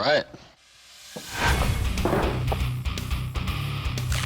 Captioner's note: thud